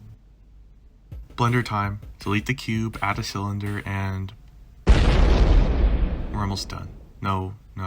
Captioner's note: boom